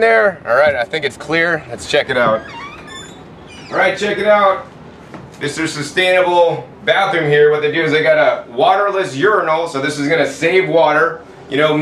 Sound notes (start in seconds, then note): 2.0 door creaks open